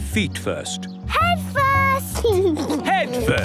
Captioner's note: giggles